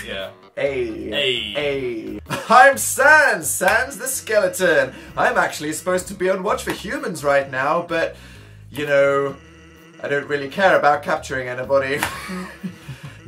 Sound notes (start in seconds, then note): 2.3 reads in "Jokey Dan Voice"; 11.8 laughs